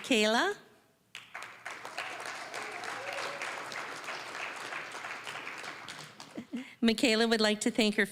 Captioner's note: applause